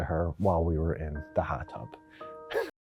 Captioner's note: laughs